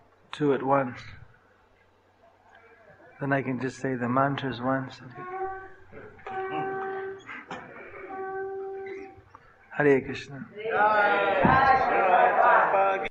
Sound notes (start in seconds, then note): 6.4 laughter; 9.0 conchshell blows